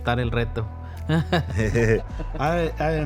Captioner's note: laugh